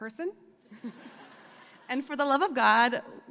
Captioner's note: audience laughing